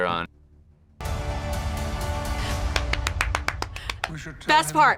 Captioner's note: epic orchestral music; claps